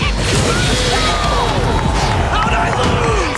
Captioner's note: crowd cheering